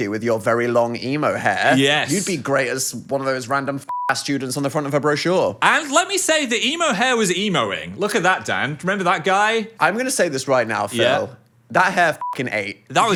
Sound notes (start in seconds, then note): 3.9 beep; 12.2 beep